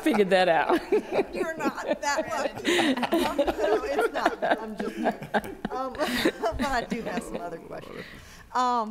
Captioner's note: laughter